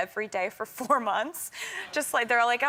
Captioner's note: laughs